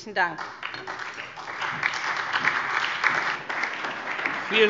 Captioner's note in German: Beifall SPD, BÜNDNIS 90/DIE GRÜNEN, Freie Demokraten und DIE LINKE